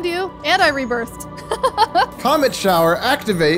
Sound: giggling

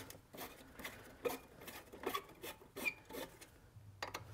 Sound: screws squeaking

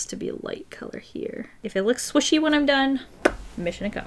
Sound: mouth pop

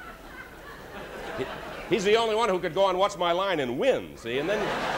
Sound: laughter

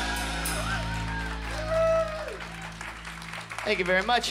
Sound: cymbals; cheers and applause

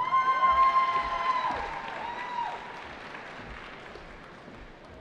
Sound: cheering

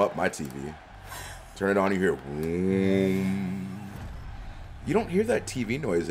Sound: laugh

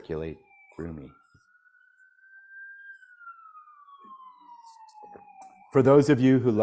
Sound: siren wails

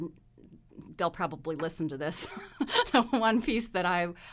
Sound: laughs

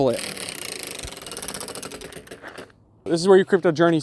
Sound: wheel whirring

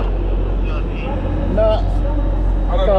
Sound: radio crackling

